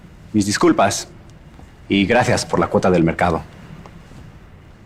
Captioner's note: Spanish